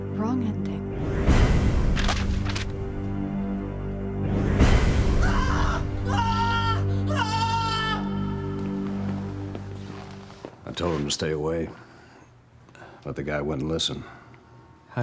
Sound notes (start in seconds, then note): 1.9 tense music; 5.4 Clayton yelling